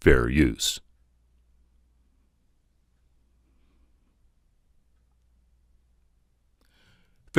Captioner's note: silence